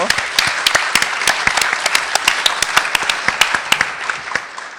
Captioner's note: applause